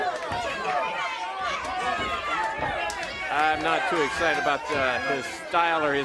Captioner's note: crowd chatter